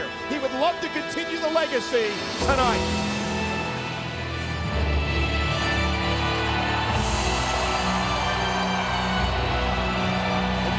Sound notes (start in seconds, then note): 4.2 haunting organ music; 6.9 crowd cheering